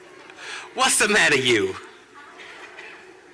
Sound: laughter

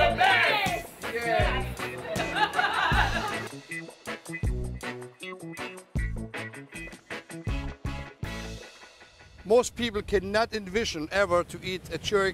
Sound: laughter

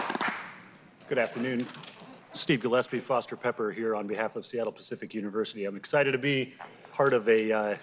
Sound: applause

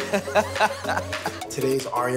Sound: laughs

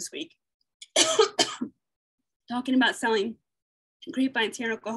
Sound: coughing

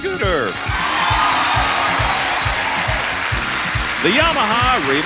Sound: audience cheers

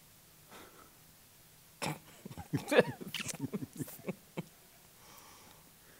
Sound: laughter

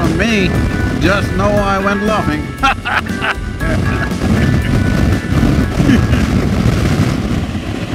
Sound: laughs

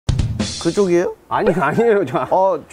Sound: hahahahahahahahahaha

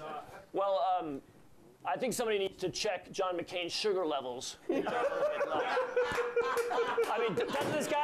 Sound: scattered laughs

